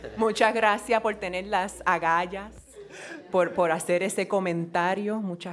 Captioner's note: speaking in foreign language